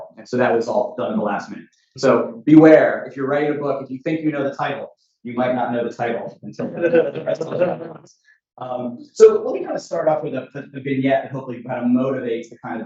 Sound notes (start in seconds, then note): 5.3 laughter drowns out speaker